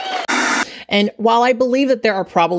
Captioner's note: audience claps; static